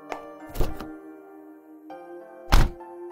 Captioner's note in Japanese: ヒールの靴で歩く音; 車のドアを閉める音; 車のドアを開ける音